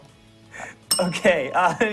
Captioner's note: bell rings